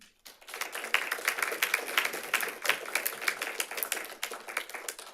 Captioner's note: audience applauding